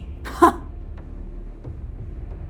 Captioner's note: derisive laugh